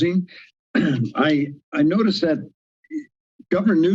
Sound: clears throat

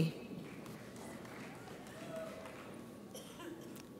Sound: audience applauds

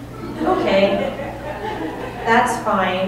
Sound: audience laughing

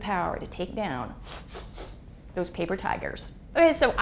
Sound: huffing

